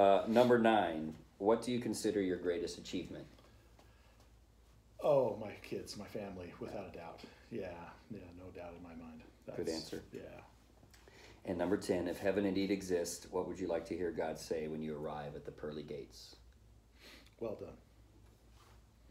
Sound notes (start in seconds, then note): 16.9 sniffles